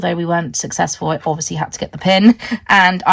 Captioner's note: laughs